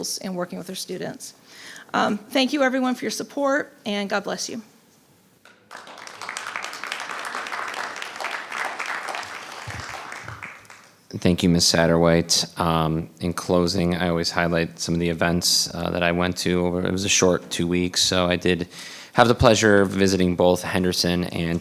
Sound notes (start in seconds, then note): 5.5 audience applauding